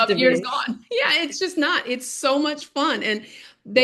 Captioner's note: laughing